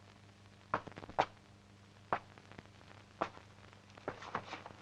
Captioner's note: floor pattering